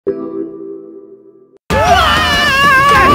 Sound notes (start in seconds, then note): 0.0 loud scream incoming